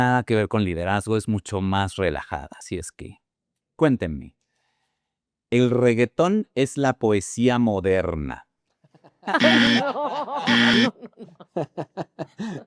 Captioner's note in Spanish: risas